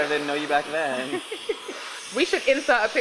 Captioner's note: laughs